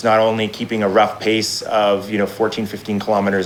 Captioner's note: none